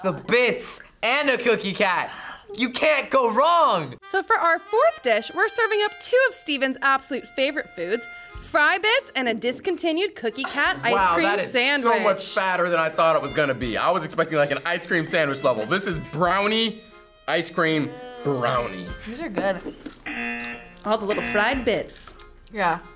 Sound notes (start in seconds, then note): 20.0 buzzer rings